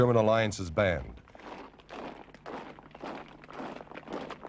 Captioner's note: boots clop